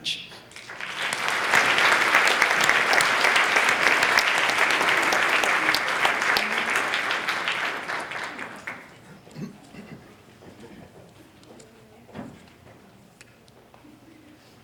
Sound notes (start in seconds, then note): 0.5 applause